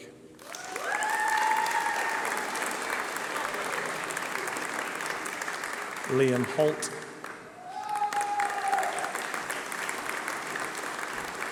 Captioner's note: applause